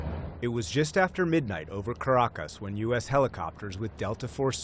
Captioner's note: voice-over